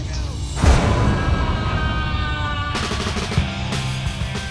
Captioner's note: screaming